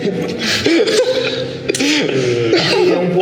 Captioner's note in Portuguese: risadas